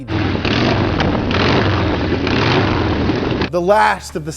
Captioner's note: engine revving